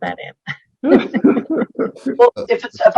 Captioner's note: hosts laughing